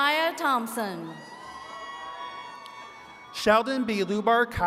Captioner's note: attendees cheering and clapping